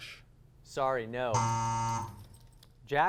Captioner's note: buzz